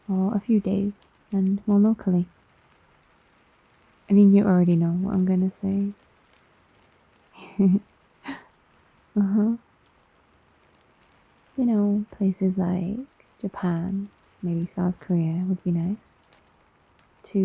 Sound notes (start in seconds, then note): 7.3 laughs